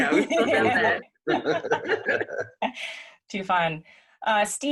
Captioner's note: both laughing